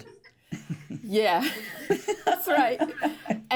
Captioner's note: laughs